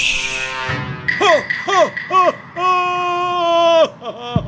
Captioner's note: evil laughter